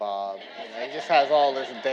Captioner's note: audience laughing